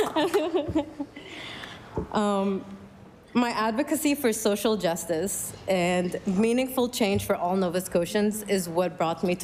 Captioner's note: laughter